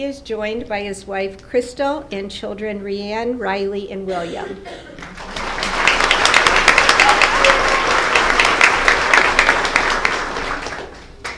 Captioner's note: applause